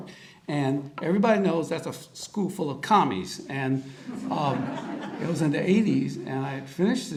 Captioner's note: audience laughter